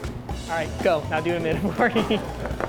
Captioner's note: laughing